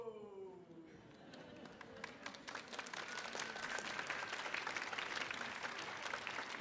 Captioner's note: crowd chuckling and applauding